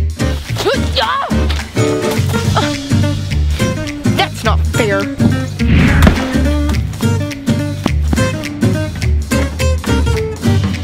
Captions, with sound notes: (grunts) - That's not fair. (lively music)